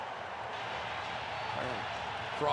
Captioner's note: cheering